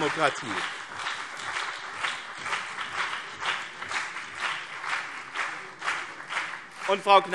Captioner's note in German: Beifall BÜNDNIS 90/DIE GRÜNEN und CDU - Zurufe SPD